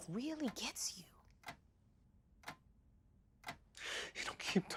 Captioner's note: clock ticking